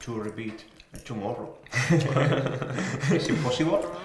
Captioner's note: all laugh